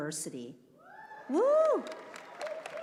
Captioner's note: cheering